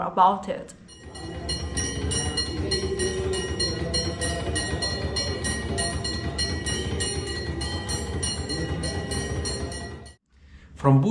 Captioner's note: bells ringing in the background